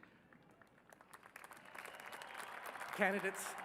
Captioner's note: applause